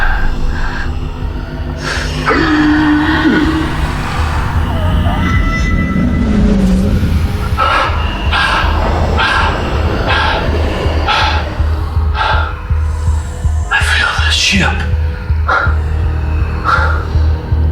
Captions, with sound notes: (Hawk groans) (mysterious vocalizing) (Hawk breathing heavily) - I feel this ship.